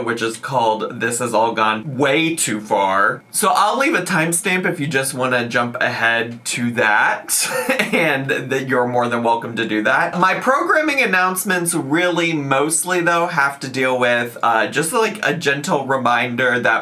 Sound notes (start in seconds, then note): 7.4 laughs